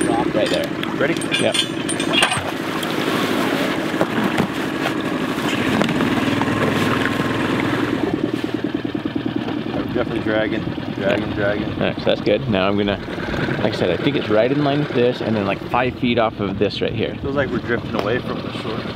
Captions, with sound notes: Drop right there. - Ready? - Yeah. (metals cluttering) (boat revving) - Definitely dragging, dragging, dragging. - Nice, that's good. Now I'm gonna, like I said, I think it's right in line with this and then like five feet off of this right here. - It feels like we're drifting away from the shore.